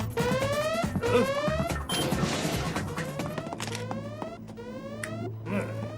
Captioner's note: alarm sounds